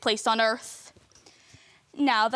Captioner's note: footsteps